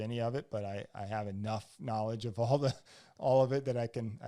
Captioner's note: laughs